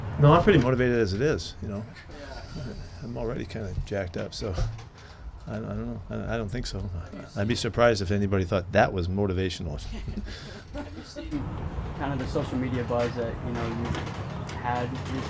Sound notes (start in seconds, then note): 1.8 chuckles; 9.8 reporters laughing